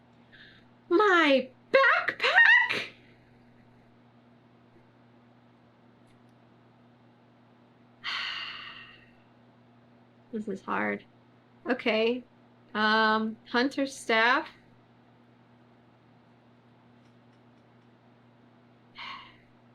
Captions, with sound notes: MY BACKPACK [SIGHS] THIS IS HARD OKAY UM HUNTER'S STAFF [SIGHS]